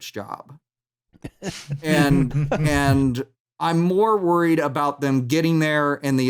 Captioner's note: light laughter